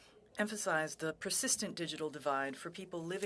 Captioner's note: speaking French